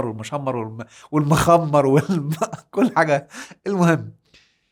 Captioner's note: laughs!